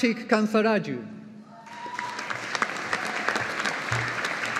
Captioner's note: audience applauding